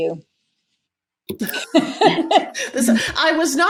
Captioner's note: laughs